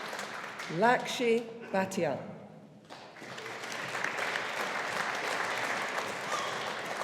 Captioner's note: audience applauding